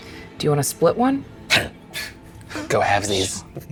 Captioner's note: group chuckles